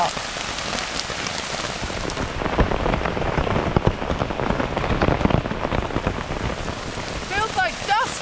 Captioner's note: rain